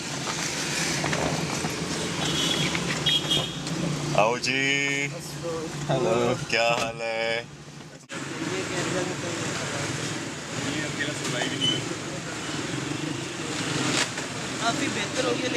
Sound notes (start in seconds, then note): 0.2 car door opens; 3.9 in Urdu; 8.0 traffic noise